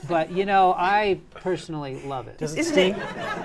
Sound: laughter

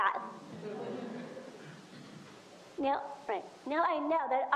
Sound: audience laughs

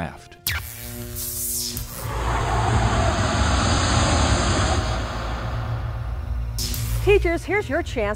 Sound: sound Effects

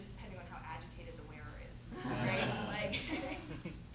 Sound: laughter

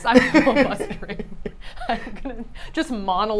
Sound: both laugh

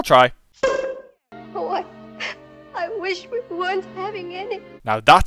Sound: sobs

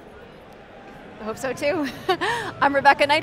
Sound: laughs

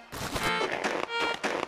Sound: footsteps

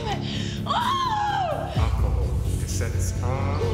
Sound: Zoe screams

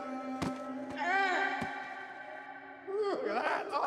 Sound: groans; laughs

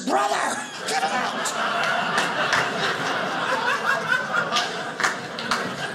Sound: audience laughing

